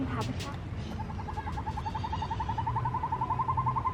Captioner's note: owls hooting